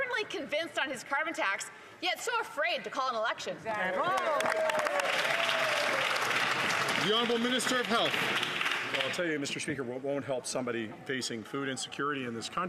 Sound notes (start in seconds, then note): 9.7 some Applause